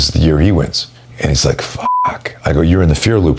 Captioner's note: beep